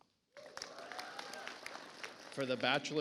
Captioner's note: audience applauds